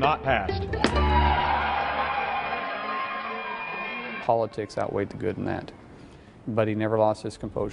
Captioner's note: applause and cheers